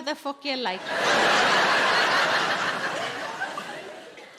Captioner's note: audience laughing